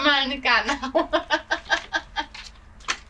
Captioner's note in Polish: atak śmiechu